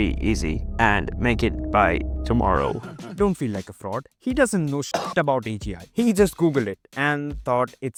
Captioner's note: cough